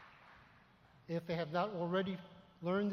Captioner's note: applause